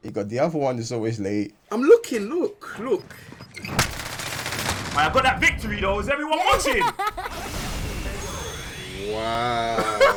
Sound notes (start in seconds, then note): 3.8 gunfire; 6.5 laughter; 9.5 laughs